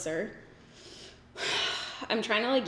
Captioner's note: sighs